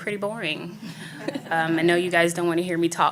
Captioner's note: audience laughs